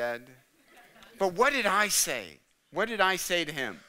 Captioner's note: audience laughing